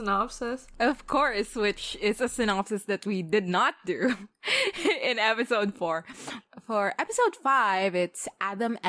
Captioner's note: laughs